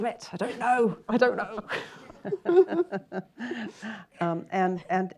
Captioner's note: chuckles